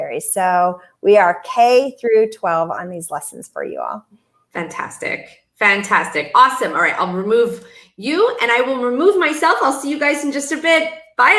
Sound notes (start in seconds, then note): none